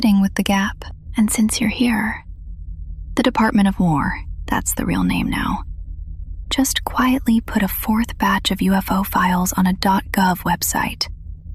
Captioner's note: whispers